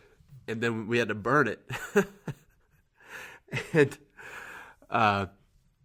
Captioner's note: laughs